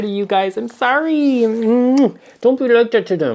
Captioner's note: smooches loudly